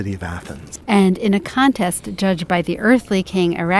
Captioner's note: voiceover